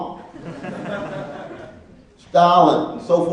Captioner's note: laughing